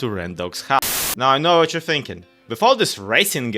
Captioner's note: TV Static